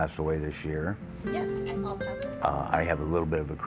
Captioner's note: woman on Phone